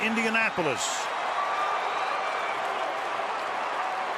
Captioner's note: cheering